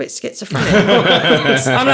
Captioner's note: laughing